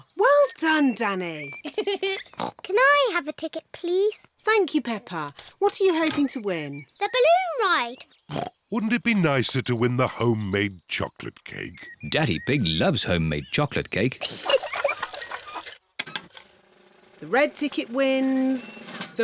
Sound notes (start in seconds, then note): 1.6 giggles; 2.3 oinks; 8.3 oinks; 14.2 giggles